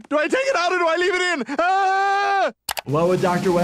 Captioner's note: Stewey yells